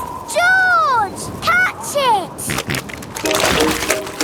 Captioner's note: snorting